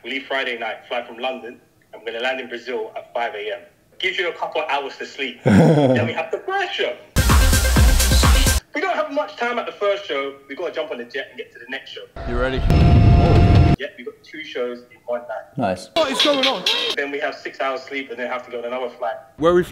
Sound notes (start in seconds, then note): 5.4 laughing; 7.2 upbeat music plays quickly